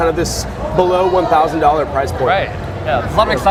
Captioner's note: people cheering